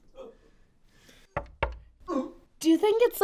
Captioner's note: knocking